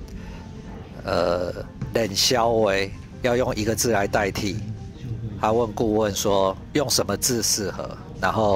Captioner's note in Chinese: 台語